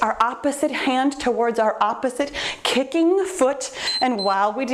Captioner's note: timer beeps